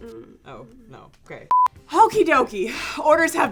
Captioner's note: beep